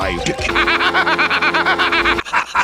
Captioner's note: evil laughter; Black Lodge-level evil laughter